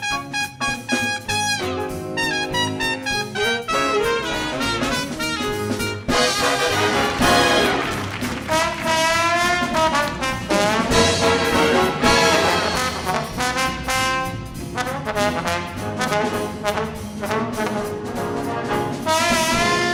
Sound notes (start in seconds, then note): 6.2 audience applauding